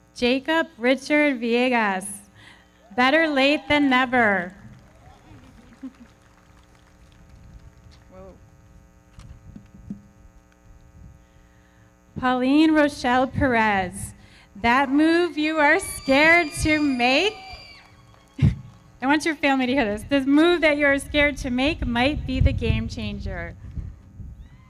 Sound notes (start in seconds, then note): 3.7 everybody clapping; 4.8 audience cheering